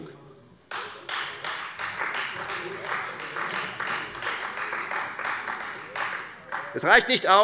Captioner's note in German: Beifall Freie Demokraten